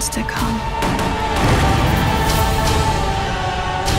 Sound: guns firing; dramatic music

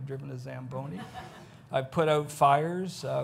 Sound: audience laughs

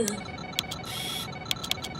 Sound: computer Noises

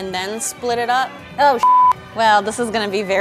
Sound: beeping

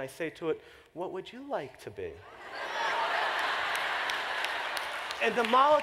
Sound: laughter

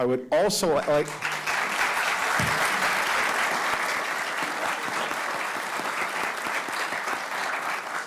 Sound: audience applauding

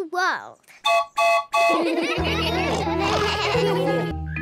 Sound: toots horn; all laugh

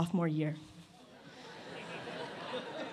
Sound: laughter

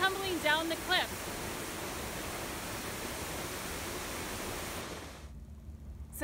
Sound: loud water sounds

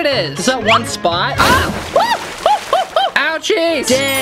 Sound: screams

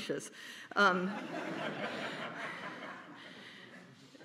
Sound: laughter

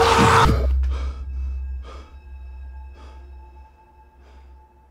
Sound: breathes heavily

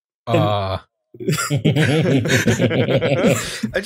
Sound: laughter

